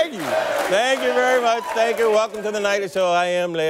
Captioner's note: chanting